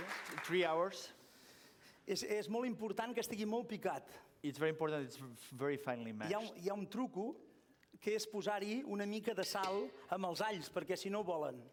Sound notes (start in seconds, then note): 2.8 non-english speech; 7.6 non-english speech